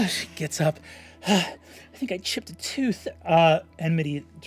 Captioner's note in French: soupire